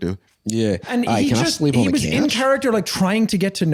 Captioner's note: Australian accent